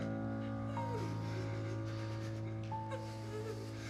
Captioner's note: victims groaning